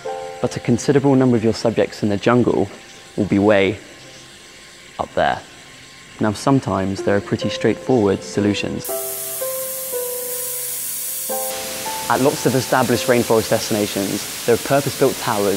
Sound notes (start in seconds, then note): 9.1 hissing steam